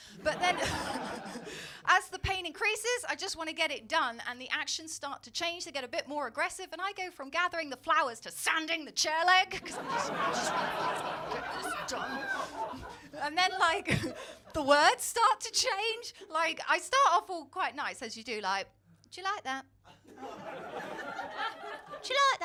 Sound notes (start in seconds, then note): 9.6 crowd laughing; 19.2 cockney Accent; 20.0 crowd laughing; 22.2 cockney Accent